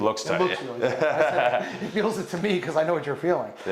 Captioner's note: laughing